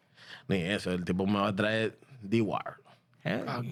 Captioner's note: speaking In Foreign Language